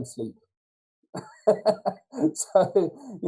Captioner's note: laughs